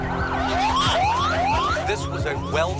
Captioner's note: sirens wailing